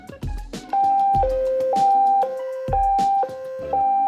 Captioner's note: beeping